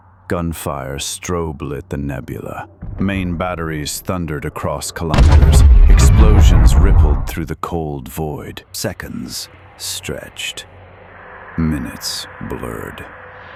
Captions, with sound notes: Gunfire strobe-lit the nebula. Main batteries thundered across kilometers. [explosion] Explosions rippled through the cold void. Seconds stretched, minutes blurred,